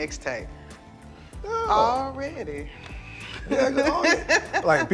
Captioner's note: laughing